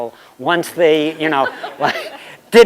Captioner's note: laughter